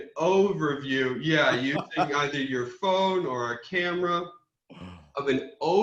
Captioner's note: laughs